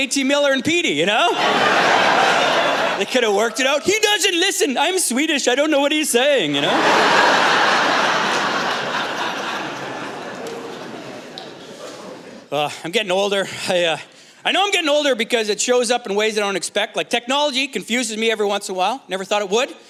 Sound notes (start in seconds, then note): 6.6 laughter